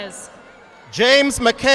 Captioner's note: audience applauding